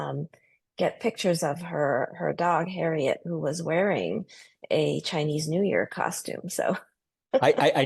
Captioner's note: laugh